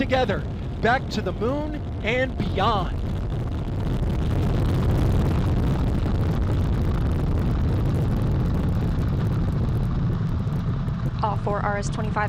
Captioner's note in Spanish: Sonido de Despegue